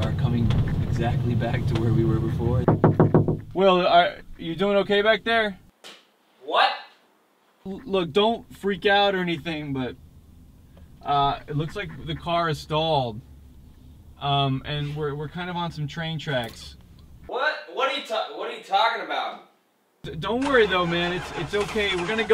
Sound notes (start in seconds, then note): 2.6 knocking